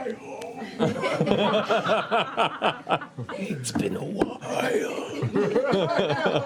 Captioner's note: Clarota voice